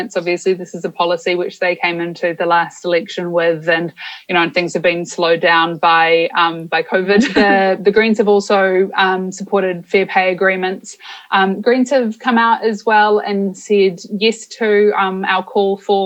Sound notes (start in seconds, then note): 7.2 laughs